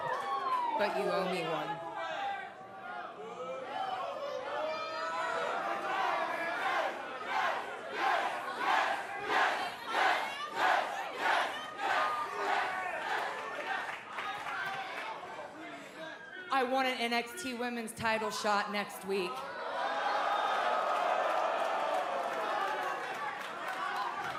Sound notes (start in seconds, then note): 0.0 cheers & applause; 8.1 fans chanting; 20.9 cheers & applause